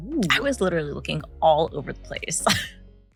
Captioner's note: laughs